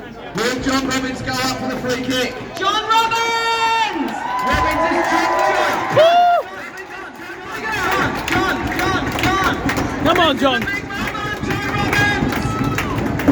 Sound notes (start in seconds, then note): 4.1 cheering; 7.5 applause; 12.3 clapping and drumbeats